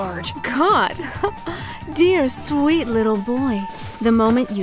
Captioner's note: chuckle